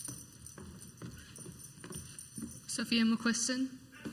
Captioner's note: high heeled footsteps walking onto the stage